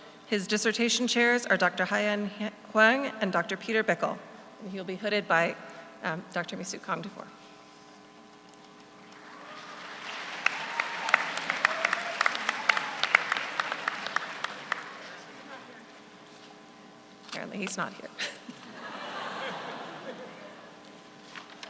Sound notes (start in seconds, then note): 9.0 audience applauds; 18.2 all laugh